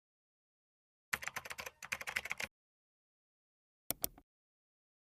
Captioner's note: keyboard clicking